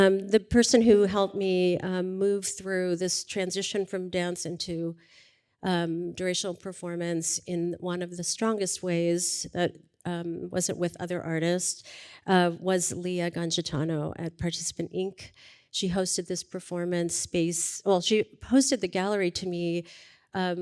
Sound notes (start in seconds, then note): none